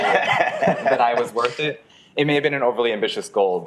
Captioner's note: people laughing